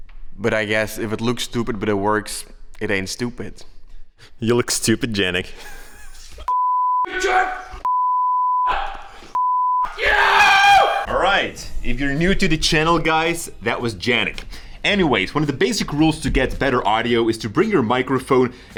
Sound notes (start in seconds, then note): 6.5 cursing uncontrollably